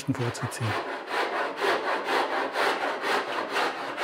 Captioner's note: rubbing, scratching noises